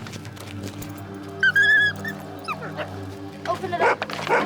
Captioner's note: Bob whines